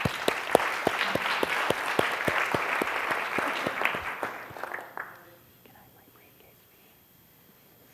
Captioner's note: applause